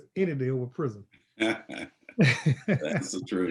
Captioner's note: laughter